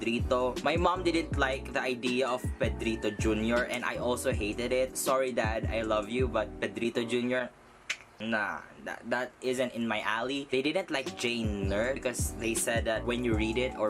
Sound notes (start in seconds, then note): 7.9 clicks tongue